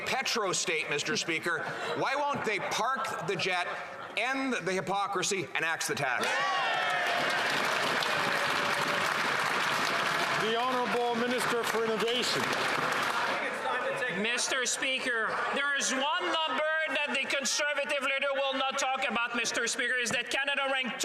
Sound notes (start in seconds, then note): 10.5 some Applause